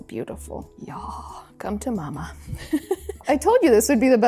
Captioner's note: giggles